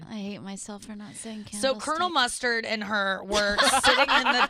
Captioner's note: laughing